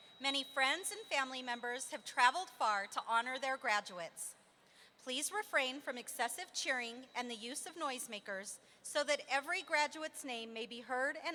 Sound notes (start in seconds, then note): none